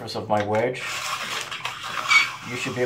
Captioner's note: wedge scraping